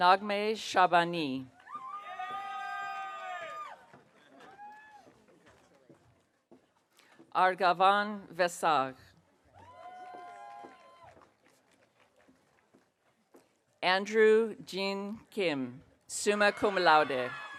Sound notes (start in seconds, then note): 1.6 audience cheering; 9.6 audience cheering